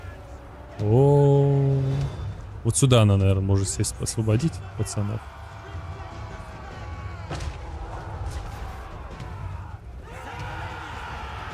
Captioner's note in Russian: крик